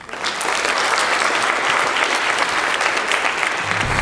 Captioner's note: applause